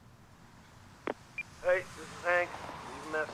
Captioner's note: voice mail